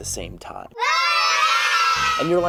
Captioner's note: yelling